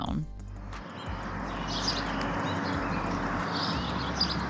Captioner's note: birds chirping